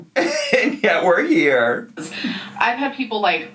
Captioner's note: laughing